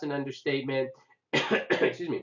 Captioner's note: coughing